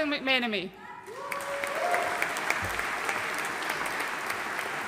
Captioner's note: audience applauding